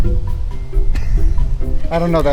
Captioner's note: laughing